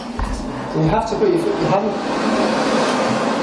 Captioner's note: hand dryer roaring